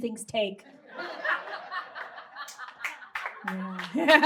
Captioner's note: audience laughs and claps